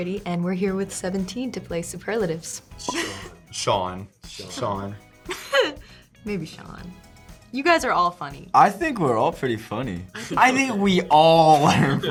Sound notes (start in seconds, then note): 5.2 Lola laughs